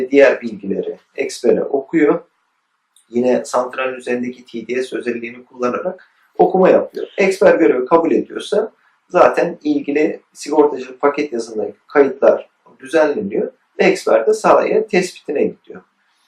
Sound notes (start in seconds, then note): 4.5 text-to-speech